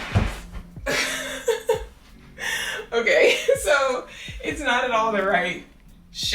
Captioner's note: laughs